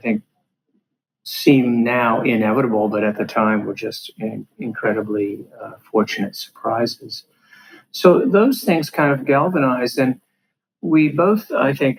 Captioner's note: laughs